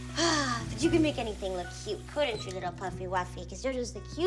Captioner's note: sighs happily